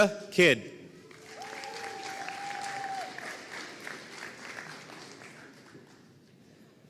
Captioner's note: audience cheering and applauding